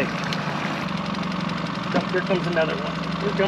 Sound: boat engine idling

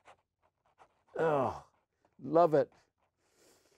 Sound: sighs

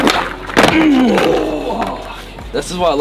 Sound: groans

